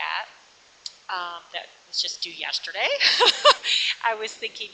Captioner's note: laughs